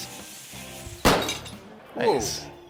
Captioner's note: powder fires